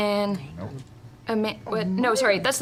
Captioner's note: quietly